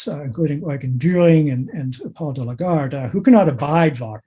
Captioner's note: audio Blurs